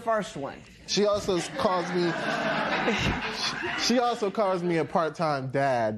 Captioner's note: laughter